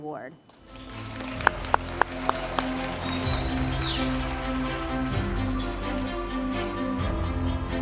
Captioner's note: applause & Cheers